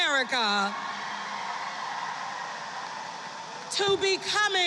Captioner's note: applause